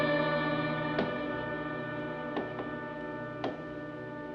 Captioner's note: tapping